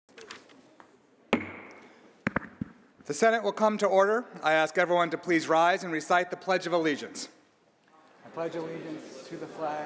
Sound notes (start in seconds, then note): 0.0 gavel bangs